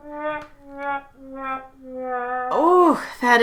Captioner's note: horn blaring